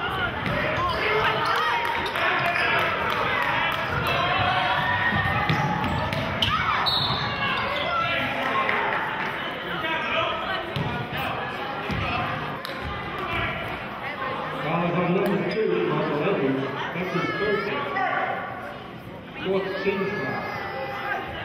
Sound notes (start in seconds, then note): 6.8 whistling